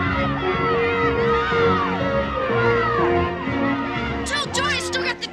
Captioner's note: girls yelling